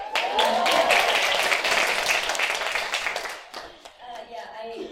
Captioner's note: applause